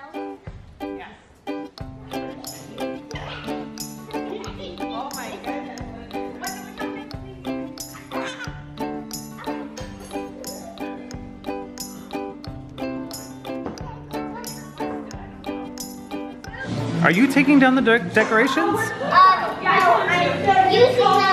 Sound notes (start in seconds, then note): 0.3 upbeat theme music; 3.3 kids giggling